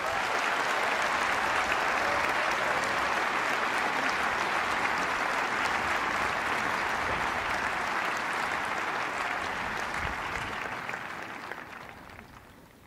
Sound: applause

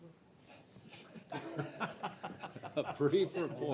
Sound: people laughing

